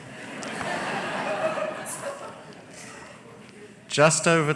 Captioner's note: laughter